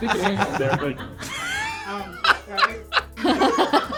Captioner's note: laughing